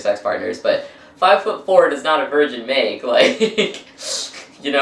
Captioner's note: laughs